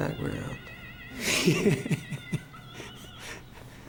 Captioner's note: man laughs